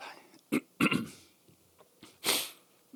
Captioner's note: cough